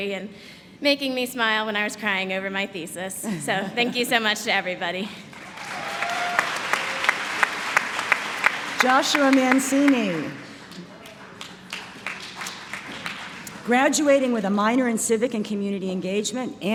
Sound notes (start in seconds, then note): 4.6 applause; 9.9 applause